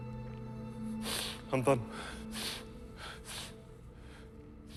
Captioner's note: sniffles